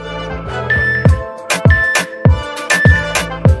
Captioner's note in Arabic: المؤقت يصدر صوتًا